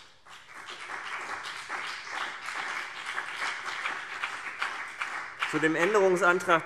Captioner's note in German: Beifall CDU und BÜNDNIS 90/DIE GRÜNEN